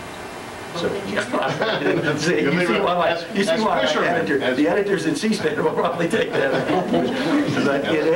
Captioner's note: laughs